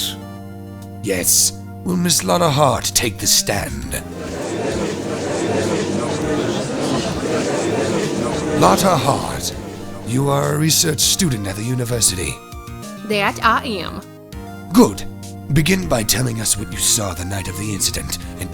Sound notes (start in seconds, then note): 4.0 gallery chattering